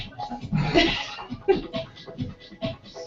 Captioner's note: laugh